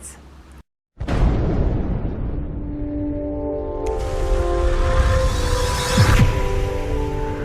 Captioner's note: loud booming; gentle music